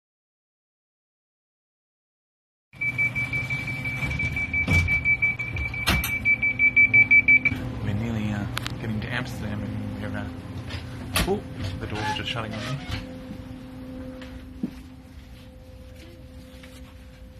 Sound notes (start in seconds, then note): 4.2 rapid beeping